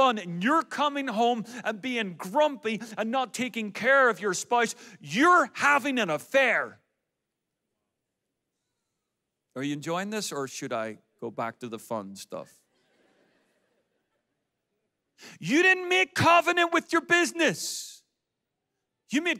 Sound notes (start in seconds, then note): 12.7 audience laughs